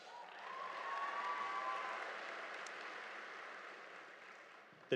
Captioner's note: audience applauding